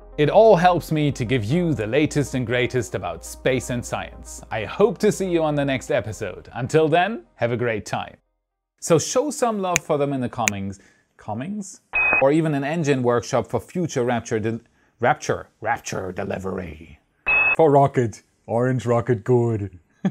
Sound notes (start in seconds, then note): 11.9 beep